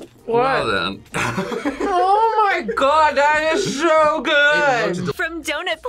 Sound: laughs

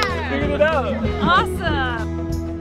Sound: hands slap

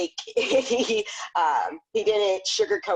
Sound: laughs

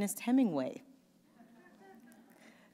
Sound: chuckle; pause

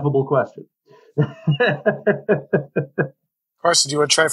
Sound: laughing

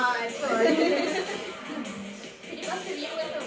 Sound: laughing

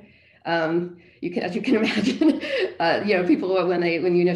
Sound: laughing

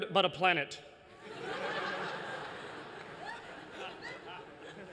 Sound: laughter

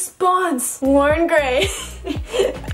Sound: laughs

